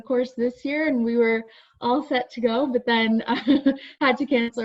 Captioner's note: laughs